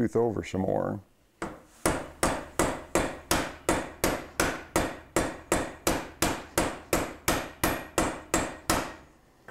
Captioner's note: hammer and saw clanging